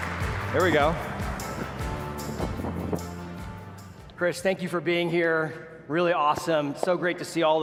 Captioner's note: applause